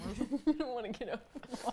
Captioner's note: laughs